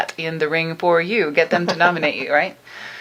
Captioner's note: laughing